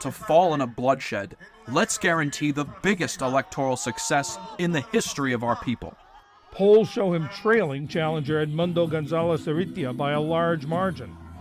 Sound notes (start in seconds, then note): 6.9 voice-over